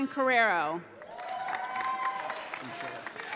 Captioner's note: audience applauding